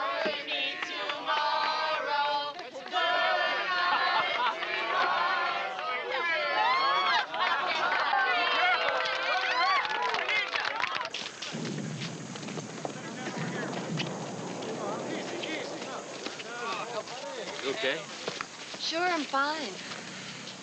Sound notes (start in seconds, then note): 6.6 cheering